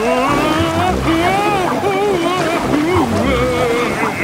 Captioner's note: Daddy Pig shouting